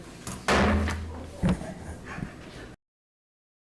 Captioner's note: gavel banging